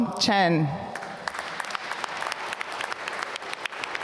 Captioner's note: applause